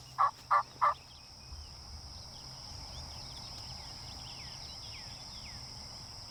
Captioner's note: turkey calls; birds chirp; insects chirp